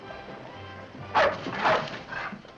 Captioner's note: band music in distance; dogs barking